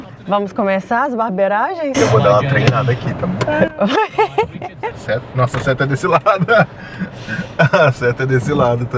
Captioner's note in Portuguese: risadas